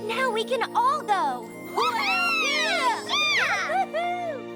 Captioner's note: all cheering